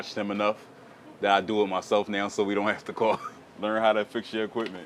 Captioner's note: laughing